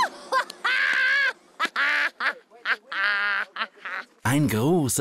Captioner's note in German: schadenfreudiges Lachen